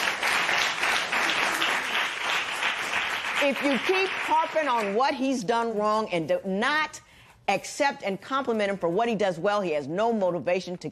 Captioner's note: applause